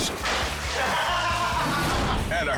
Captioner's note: juice splashes; husband laughs